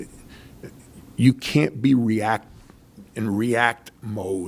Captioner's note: none